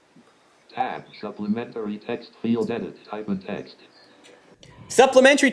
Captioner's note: automated voice